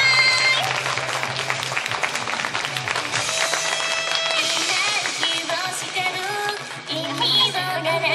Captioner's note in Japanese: 拍手